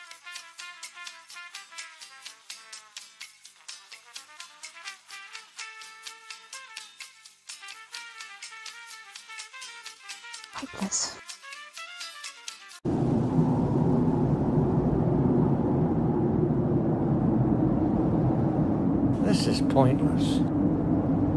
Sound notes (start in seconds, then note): 0.2 reception Music Continues; 12.8 stormy Wind